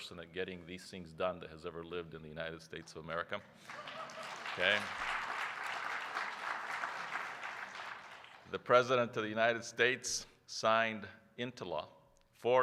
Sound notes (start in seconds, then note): 3.6 applause